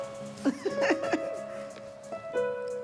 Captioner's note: laughter